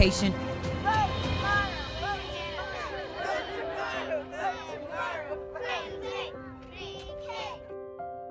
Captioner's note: chanting "vote tomorrow!" "vote tomorrow!"